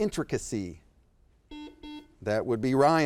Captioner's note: buzzer beeps